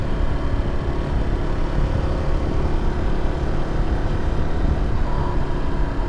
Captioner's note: engine rumbling